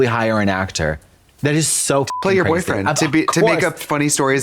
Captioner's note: beep